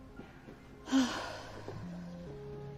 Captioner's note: sighs